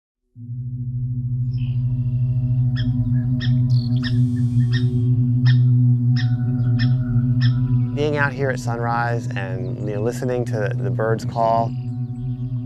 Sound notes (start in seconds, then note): 1.5 recorded bird calls play